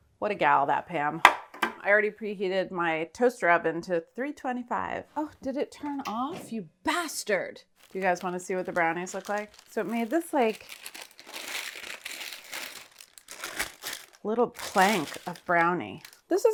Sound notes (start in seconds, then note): 11.1 paper rattling